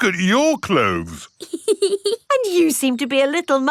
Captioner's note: laughs